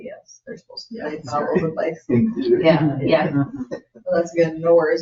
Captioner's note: people chatter